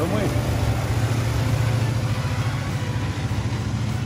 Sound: train engine revving

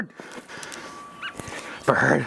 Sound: bird chirping

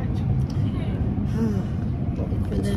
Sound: sighs

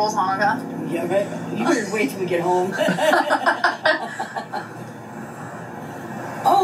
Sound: laughs

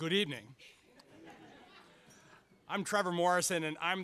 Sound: audience laughs

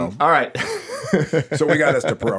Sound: laughs

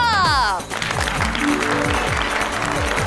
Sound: applauding

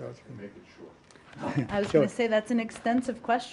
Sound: laughter

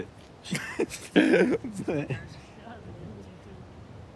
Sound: laughs

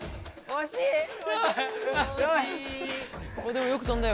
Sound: crying

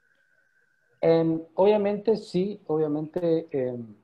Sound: in Spanish

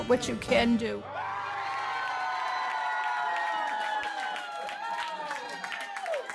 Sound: cheering

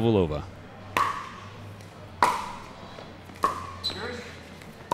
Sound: ball bouncing

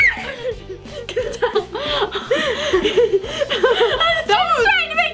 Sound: both girls laughing

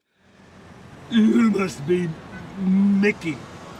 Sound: drunken slur

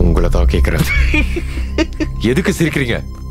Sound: laughs

